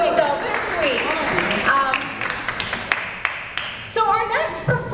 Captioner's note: applause